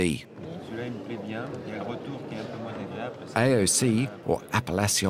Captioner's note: speaks french